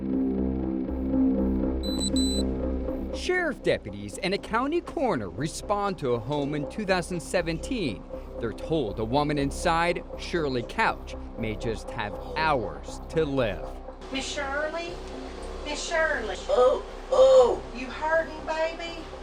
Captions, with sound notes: *Body camera beeps* Sheriff deputies and a county coroner respond to a home in 2017. They’re told a woman inside – Shirley Couch - may have just hours to live. Ms. Shirley? Ms. Shirley? *Woman groans* You hurting, baby?